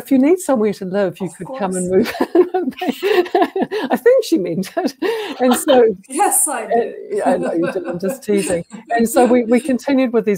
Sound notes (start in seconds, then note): 1.9 laughter; 5.4 laughter